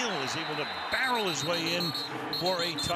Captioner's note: whistle blows